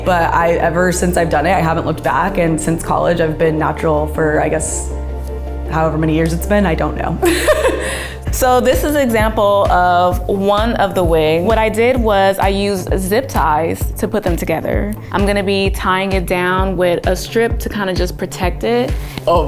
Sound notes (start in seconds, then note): 7.2 chuckles